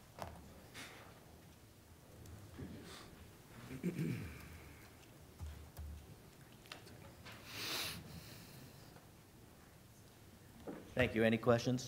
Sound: laughter

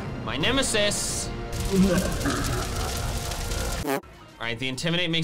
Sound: demonic laugh

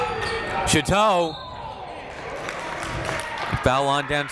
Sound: whistle

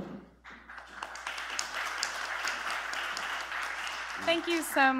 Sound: applause

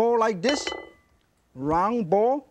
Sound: bowl clinks

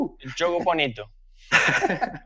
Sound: chuckles

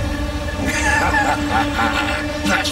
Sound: laughing

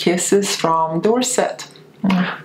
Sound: lips smacking

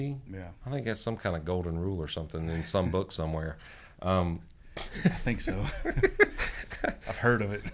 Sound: laughter

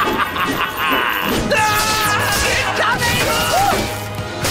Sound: laughing; screaming

